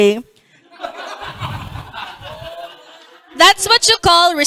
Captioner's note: laughter